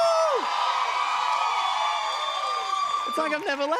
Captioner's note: cheers and applause